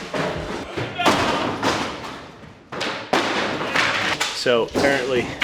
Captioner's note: debris clattering; man shouting